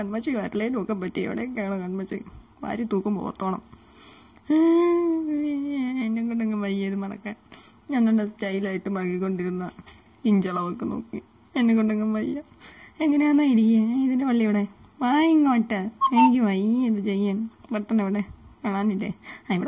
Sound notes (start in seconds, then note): 8.2 sobs